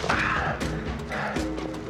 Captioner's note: Evan grunts